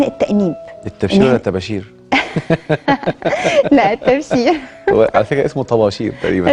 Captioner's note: sarcasm!